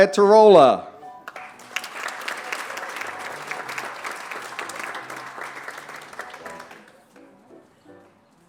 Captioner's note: applause